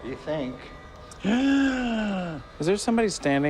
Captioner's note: gasp